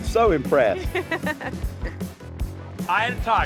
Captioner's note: laughs